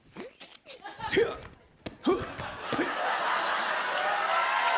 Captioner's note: grunting; cheers and applause